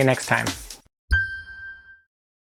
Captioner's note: chime sound